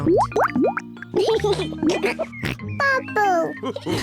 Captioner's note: laughs and snorts; all laugh